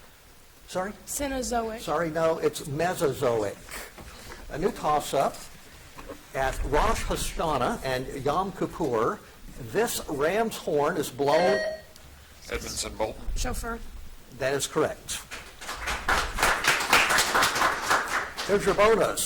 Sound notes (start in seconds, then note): 11.3 buzzer dings; 15.2 audience applauds